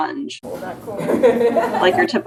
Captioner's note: laughs